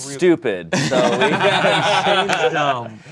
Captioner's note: everyone laughs